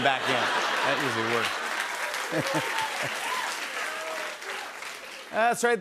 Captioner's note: chuckles; cheers and applause